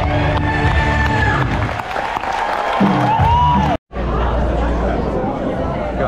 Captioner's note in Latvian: Aplausi